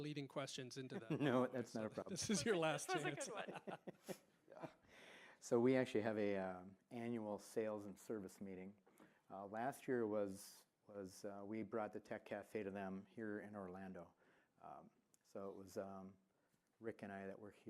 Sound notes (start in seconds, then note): 4.4 laughter